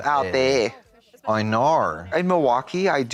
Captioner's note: Australian accent